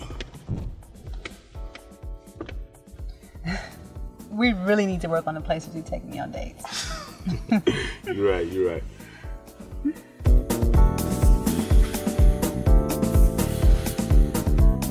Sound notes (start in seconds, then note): 6.7 laughing